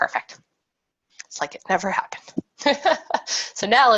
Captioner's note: laughs